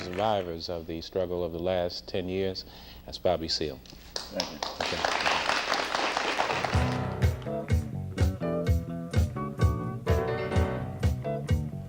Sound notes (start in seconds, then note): 6.3 audience applauding; 8.3 smooth jazzy music